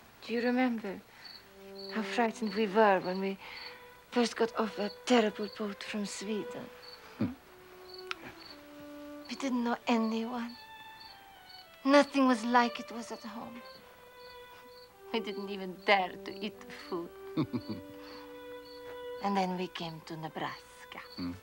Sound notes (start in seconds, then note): 17.3 Nils laughing